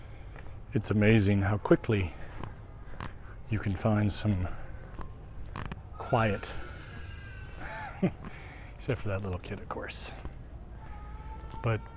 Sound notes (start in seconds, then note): 5.9 baby crying in distance